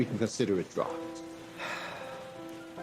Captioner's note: sighs